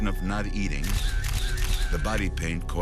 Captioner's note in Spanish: cámaras haciendo clic